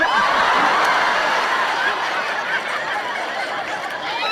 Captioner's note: audience laughing